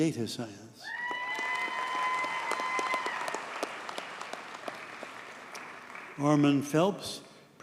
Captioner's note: audience cheers and applauds